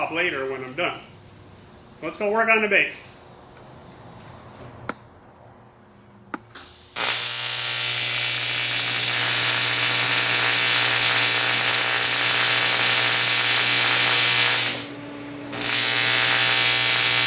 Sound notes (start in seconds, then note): 6.6 welding